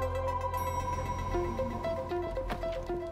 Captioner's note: elevator dings